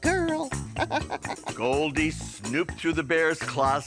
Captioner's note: giggling